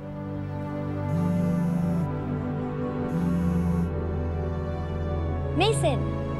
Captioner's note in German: handy vibriert